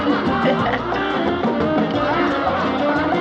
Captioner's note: giggles